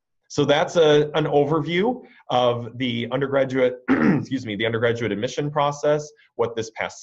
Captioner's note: clears throat